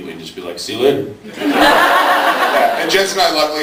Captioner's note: laughs